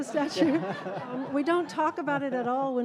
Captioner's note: attendees and panelists laughing